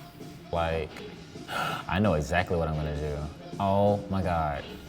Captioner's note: gasps